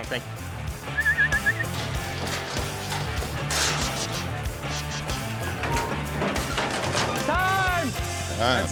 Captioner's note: whistling